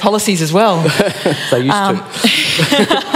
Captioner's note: laughing